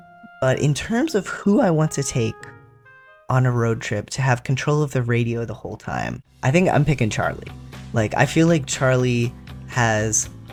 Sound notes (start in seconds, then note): none